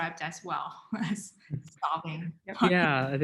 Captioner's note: speaking faintly